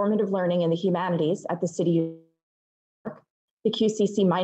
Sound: mic cuts out

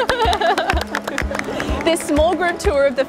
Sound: laughing; clapping

